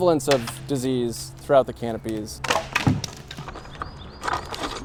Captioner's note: branch cracks